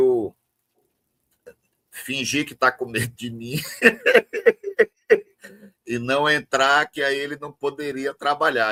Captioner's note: risadas